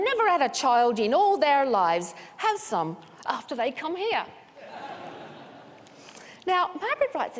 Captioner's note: laughter